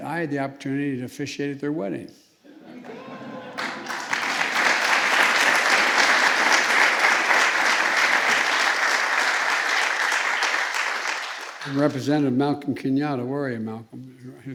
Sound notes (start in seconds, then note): 2.6 laughter and applause